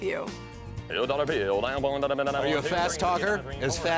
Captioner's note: auctioneering Chant